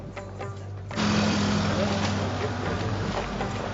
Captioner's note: upbeat Indian music; motor putters